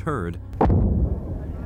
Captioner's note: explosion